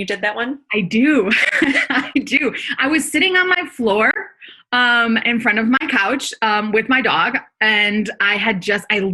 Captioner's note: laughs